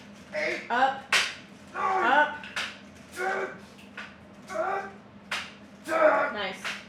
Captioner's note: grunts